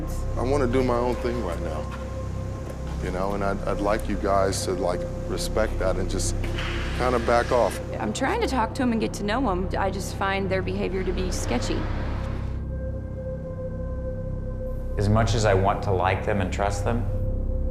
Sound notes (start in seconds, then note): none